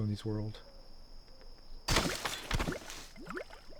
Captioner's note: gunshot